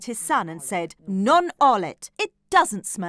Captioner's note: speaking in foreign language